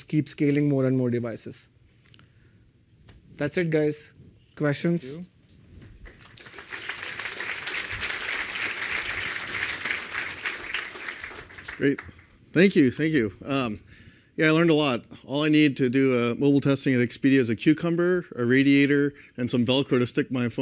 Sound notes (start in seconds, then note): 6.0 applause